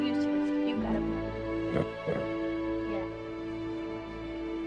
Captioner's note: snorts